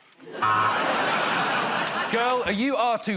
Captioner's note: laughter